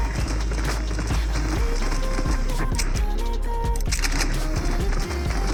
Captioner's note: map Greeting Sounds